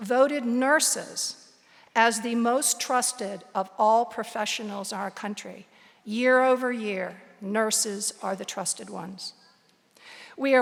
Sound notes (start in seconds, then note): none